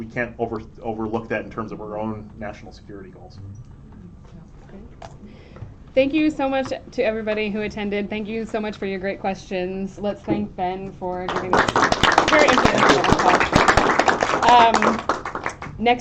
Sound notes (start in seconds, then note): 11.2 applause